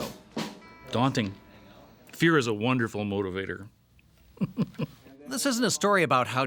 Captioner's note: chuckles